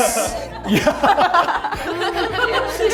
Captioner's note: laughing; laughs